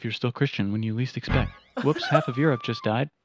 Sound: laughing

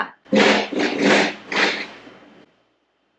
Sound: thudding

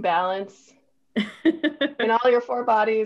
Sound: laughs

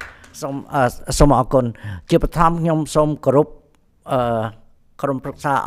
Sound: audience applauding; speaks in Khmer language

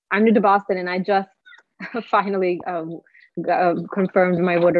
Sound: chuckling

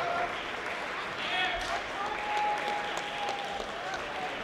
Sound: sounds of enthusiastic high-fiving

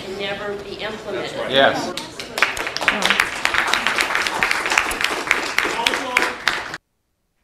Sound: applause

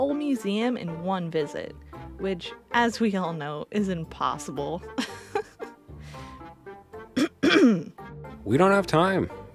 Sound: giggle, throat clear

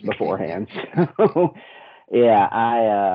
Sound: laughing

